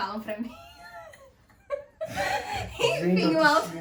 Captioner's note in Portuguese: risos